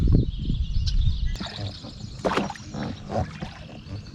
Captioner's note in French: Sons d'oiseaux